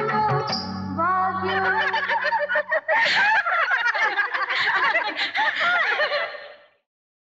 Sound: laughs

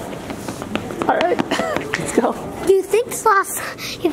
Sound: laughs

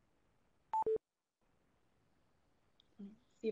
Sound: beep

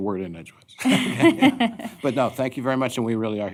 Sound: laughter

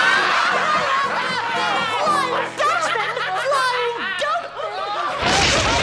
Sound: laughing

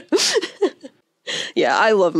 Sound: laughs

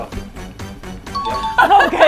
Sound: bell rings

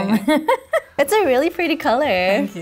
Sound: giggles

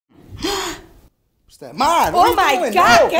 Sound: gasp

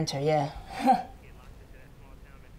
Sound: scoffs

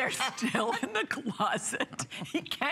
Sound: laughter

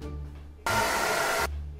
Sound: again dryer sound

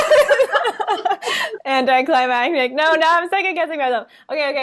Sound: laughter

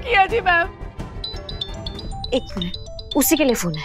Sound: phone ringing

